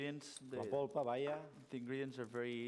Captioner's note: non-english speech